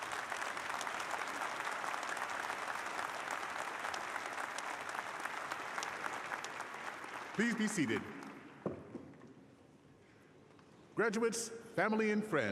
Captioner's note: applause